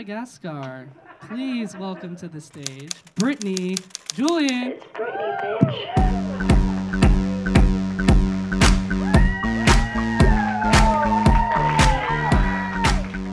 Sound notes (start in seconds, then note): 0.9 audience laughing; 4.9 audience cheering; 8.8 audience cheering; 9.1 audience clapping